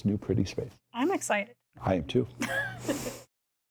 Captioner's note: laughs